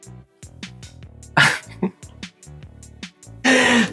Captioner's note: laughs